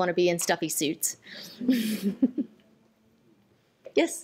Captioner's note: laughter